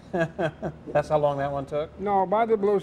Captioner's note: laughs